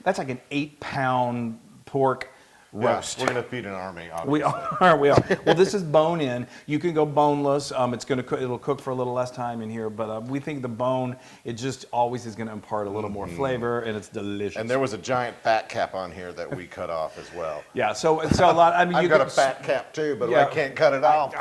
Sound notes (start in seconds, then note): 4.3 laugh